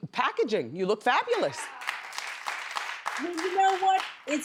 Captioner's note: audience claps